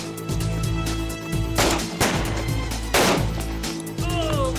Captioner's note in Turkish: si̇lah sesleri̇